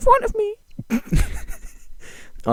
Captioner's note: Keyaruga laughing